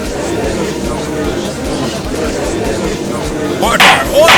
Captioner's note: gallery chattering